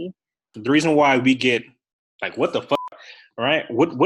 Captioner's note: beep